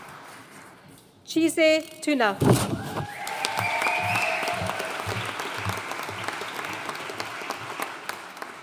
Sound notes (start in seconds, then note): 3.0 audience cheering and applauding